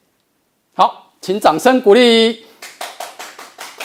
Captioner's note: applause